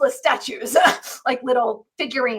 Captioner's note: laughs